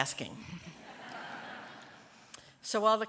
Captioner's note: laughter